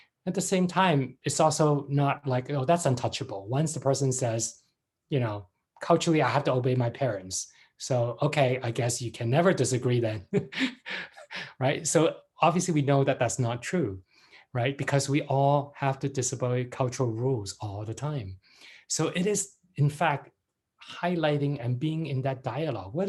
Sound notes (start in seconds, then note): 10.3 laughs